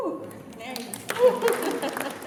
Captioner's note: applause